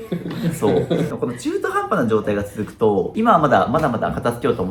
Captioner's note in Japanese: 笑い